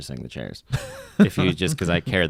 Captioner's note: laughs